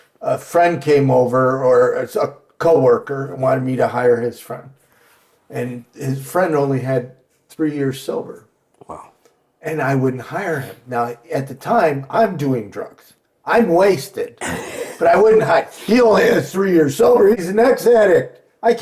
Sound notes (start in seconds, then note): 14.4 laughing